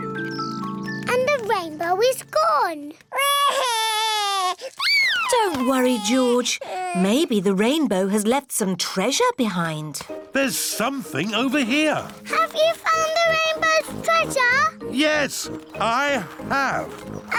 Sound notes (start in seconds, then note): 3.2 cries